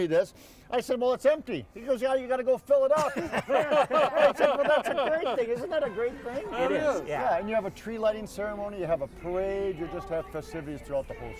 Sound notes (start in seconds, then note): 3.0 everyone laughing